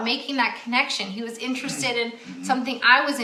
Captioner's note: throat clearing